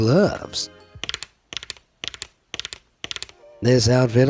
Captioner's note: homemade glove clanks